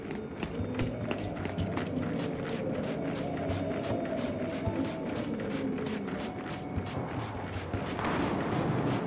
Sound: footsteps

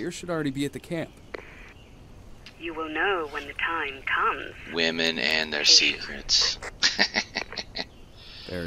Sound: laughs

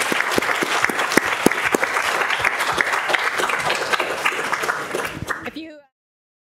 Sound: applause

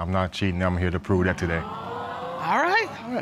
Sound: audience exclaiming

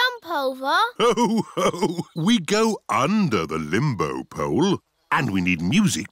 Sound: laughs

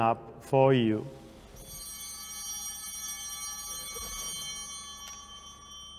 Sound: altar bell ringing

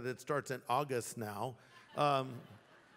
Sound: laughter

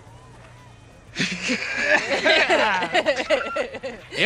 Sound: laughter

